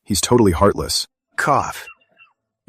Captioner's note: cough